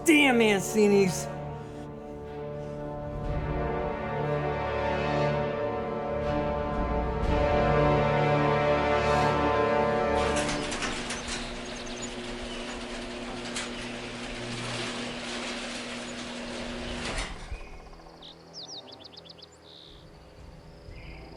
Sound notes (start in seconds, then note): 0.0 tense music continues; 3.4 tense music; 12.0 door whirring; 17.3 birds chirping